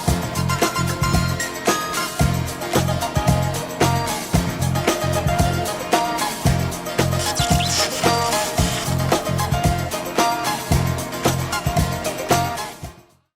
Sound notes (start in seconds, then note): 7.1 logo sizzles